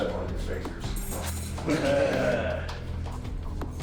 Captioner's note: inmates chuckling